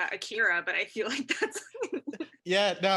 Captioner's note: laughs